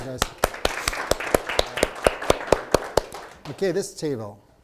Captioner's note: applause